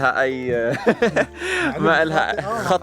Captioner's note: chuckles